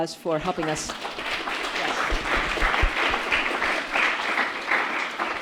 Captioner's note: audience applauds